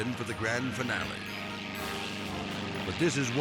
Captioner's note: helicopters buzzing